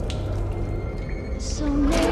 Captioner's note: water dripping